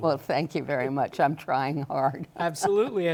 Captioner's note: laughs